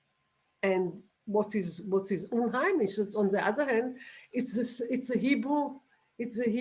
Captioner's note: non-english